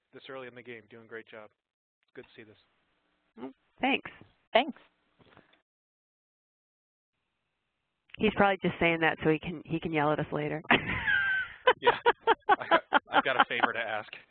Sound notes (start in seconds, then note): 10.8 laughs